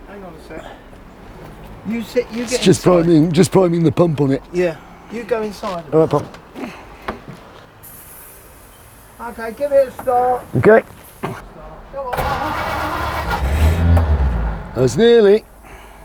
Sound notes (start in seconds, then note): 7.9 spray can hissing; 12.0 car starting